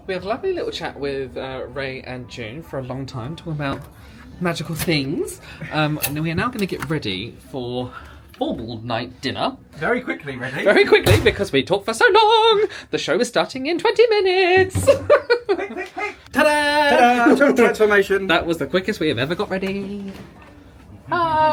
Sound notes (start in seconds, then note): 14.8 laughs